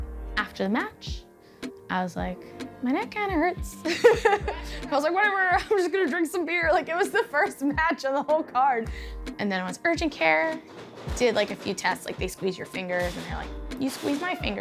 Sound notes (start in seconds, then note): 3.9 laughs